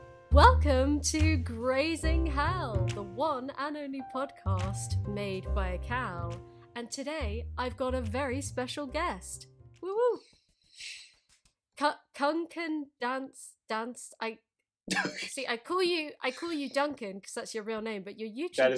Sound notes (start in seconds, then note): 14.9 laughs